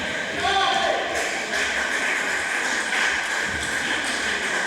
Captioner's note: applause